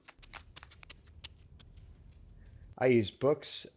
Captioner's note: running shoe paces